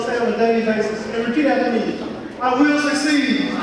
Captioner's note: audience speaking